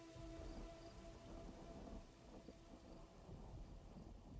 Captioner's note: crickets chirping